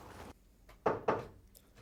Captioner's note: firm knocking